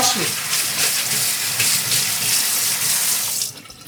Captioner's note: water running